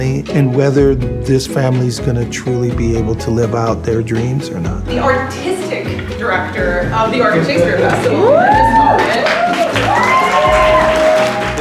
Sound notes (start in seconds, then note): 9.2 applause and cheering